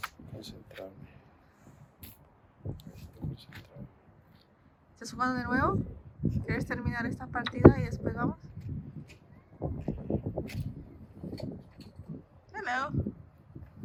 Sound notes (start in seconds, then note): 3.6 Spanish; 6.1 Spanish